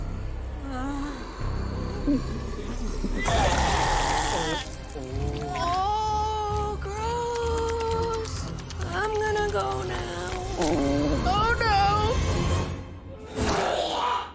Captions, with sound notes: [vomiting] Oh, gross. I'm going to go now. Oh, no. [vomiting]